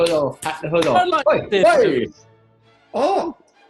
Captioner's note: claps